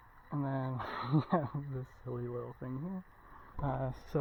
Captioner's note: laughs